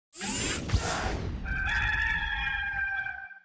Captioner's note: logo whooshing in